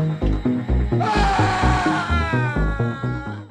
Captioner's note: groan